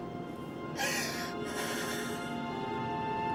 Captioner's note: crying